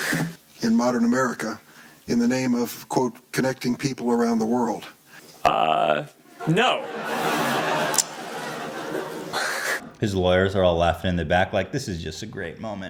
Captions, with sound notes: " -in modern America, in the name of, quote, 'connecting people around the world.'" "Uh, no." *laughter* *ZUCC Hiss* His lawyers are all laughing in the back like, "This is just a great moment"